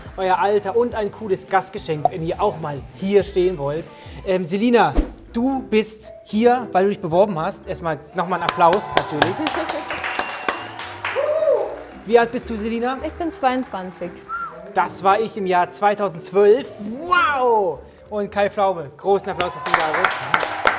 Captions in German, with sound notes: euer Alter und ein cooles Gastgeschenk, wenn ihr auch mal hier stehen wollt. Selina, du bist hier, weil du dich beworben hast. Erst mal Applaus natürlich. (Jubelrufe) Wie alt bist du, Selina? - Ich bin 22. Das war ich im Jahr 2012. Wow! Und Kai Pflaume. Großen Applaus, dass du da bist.